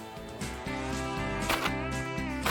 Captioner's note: upbeat county music; gun fire; upbeat county music